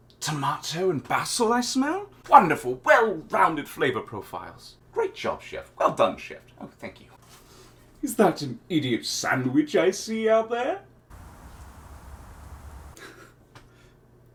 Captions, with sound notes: - tomato and basil I smell? Wonderful! Well rounded flavor profiles! Great job, chef! Well done, chef! Oh, thank you. (blinds open) Is that an idiot sandwich I see out there? (oblivious dog tag jingles, city noise) (chuckles)